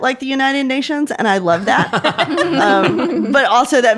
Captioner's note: everyone laughing